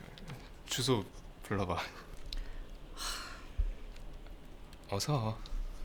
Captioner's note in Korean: 한숨